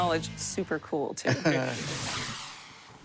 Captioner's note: chuckles